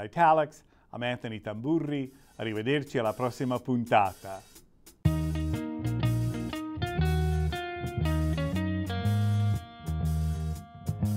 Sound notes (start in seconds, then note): 4.7 speaking Italian; 6.7 closing Theme Music